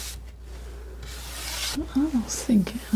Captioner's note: scratching